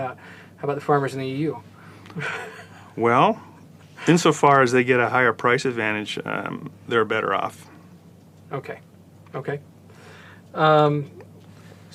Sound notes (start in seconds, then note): 2.1 laugh